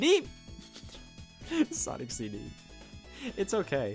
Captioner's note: chuckling